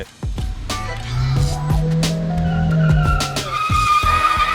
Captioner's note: engine roaring